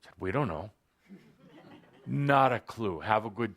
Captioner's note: laughter